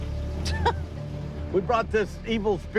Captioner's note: chuckling